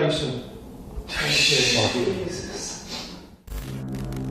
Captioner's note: all gasping